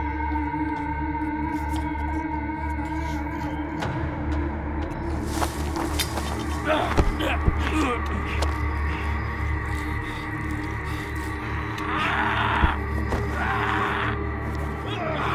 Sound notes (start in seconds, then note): 5.1 leaves rustling; 7.8 grunting; 13.0 yelling